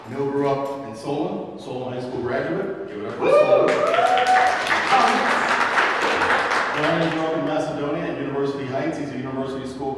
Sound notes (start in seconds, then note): 3.1 audience cheering and clapping